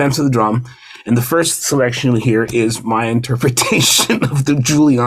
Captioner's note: laughs